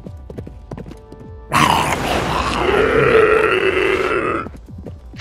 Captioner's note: grunts from demons